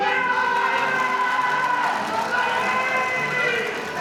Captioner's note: audience applauding; applause